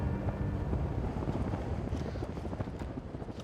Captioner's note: flag flapping